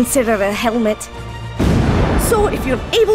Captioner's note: large rock crashing